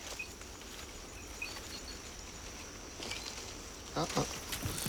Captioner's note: birds chirping